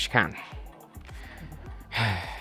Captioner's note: sigh